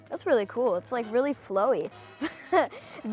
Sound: laughs

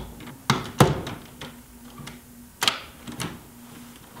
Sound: door slamming

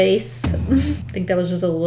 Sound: pained laugh

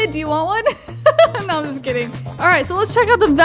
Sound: laughs

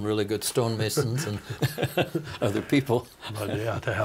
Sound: laughing

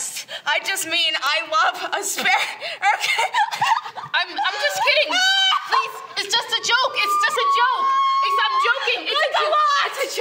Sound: maniacal laughter

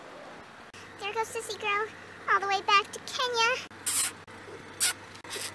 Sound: kisses

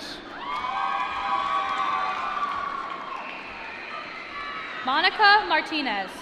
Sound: applause

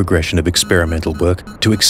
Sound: beeping sounds

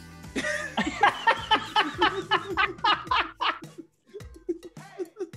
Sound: laugh

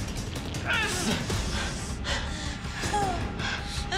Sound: Lydia groaning

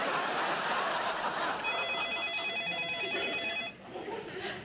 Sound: telephone rings

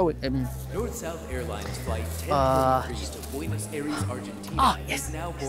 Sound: airport announcement

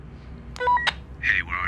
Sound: walkie talkie beeps

